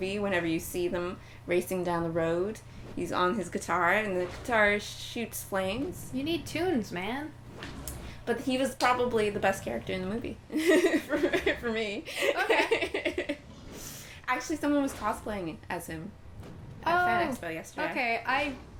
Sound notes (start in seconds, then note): 12.1 laughing